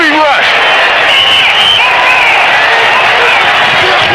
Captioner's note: crowd cheering